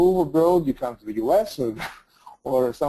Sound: laughs

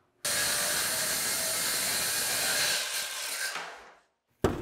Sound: saw buzzing

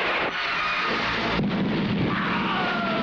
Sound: explosion

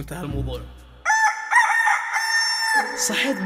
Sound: rooster crowing

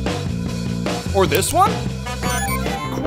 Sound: honking

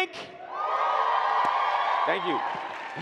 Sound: audience clapping and cheering

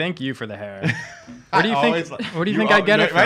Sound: laughing

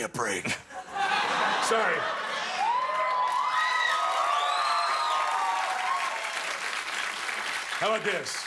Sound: cheers and applause

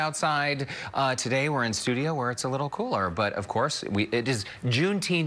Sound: talking fast

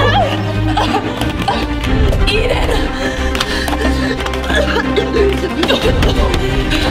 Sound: coughing

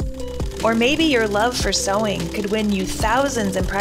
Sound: sewing machine

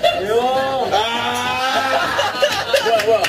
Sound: argh

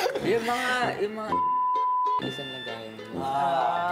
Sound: beep

